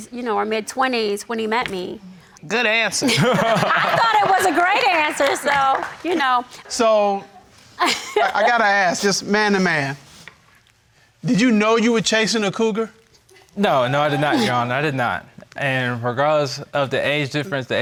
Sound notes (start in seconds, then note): 3.0 laughing; 7.8 laughs; 13.6 audience laughing